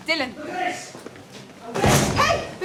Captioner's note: Adrian, shouting